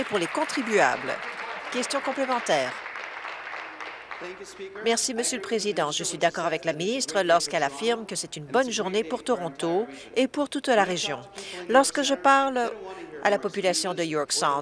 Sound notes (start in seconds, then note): 3.2 applause